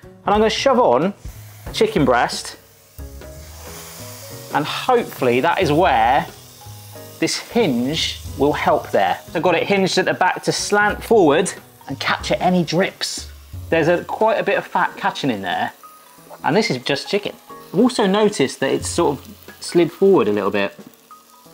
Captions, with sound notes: and I'm gonna shove on chicken breast, (grill sizzling) and hopefully, that is where this hinge will help there. I've got it hinged at the back to slant forward and capture any drips. There's a quite a bit of fat catching in there and this is just chicken. I've also noticed that it's sort of slid forward a little bit.